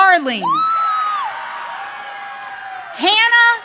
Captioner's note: audience cheering